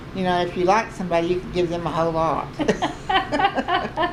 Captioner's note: laughter